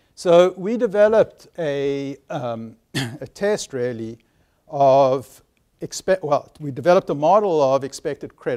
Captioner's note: cough